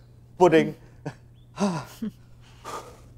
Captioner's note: Sigh